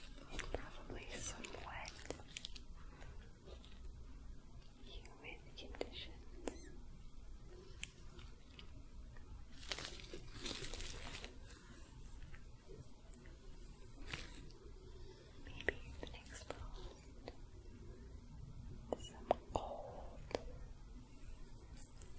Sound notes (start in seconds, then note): 7.4 crinkling, sticky sounds, soft brushing; 21.1 soft brushing